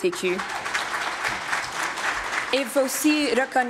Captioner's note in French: applaudissements